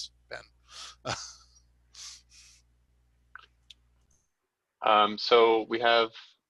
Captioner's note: laughs